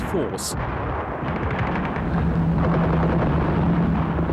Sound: guns firing

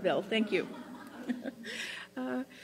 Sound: laughter

